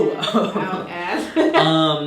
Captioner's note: laughing